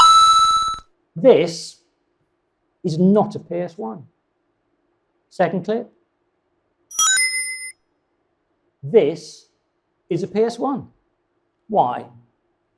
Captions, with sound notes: (computer rings) This is not a PS1. Second clip? (computer rings) This is a PS1. Why?